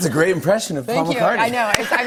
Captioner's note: laughter